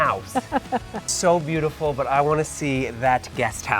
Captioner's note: laughs